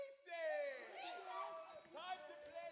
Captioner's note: students murmur in excitement